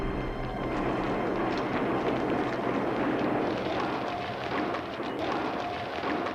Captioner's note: guns blasting; ruble clattering